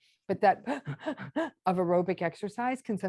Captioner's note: heavy panting